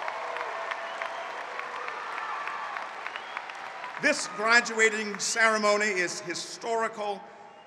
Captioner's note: applause